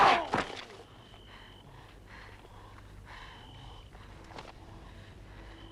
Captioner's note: Hundra grunts; Torente groans; Hundra breathing heavily